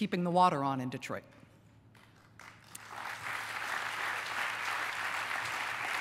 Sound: applause

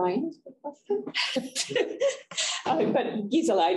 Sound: chuckling

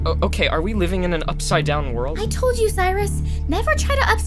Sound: none

